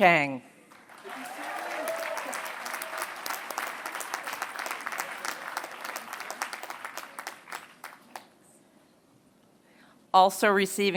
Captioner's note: applause